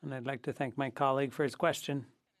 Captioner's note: speaking French